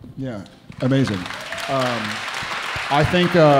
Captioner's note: audience applauding